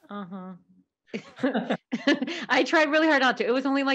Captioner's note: laughing